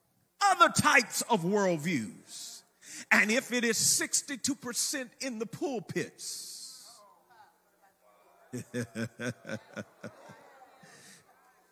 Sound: laughs

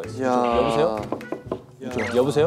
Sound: knocking

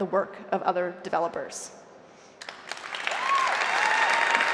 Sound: applause

